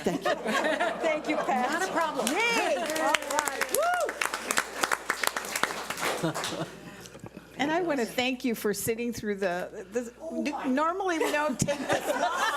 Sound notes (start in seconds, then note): 3.5 cheering and applauding; 11.1 laughing